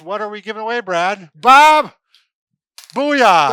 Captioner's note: yells